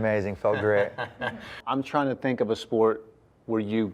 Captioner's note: laughter